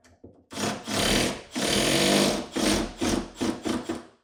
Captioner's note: drill whirring